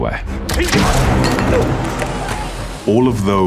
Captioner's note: gun pops; officer grunts